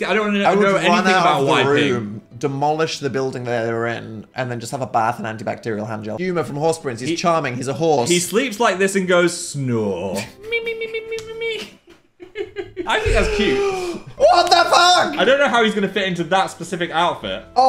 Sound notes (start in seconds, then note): 12.1 laughs